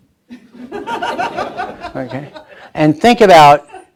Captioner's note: laughing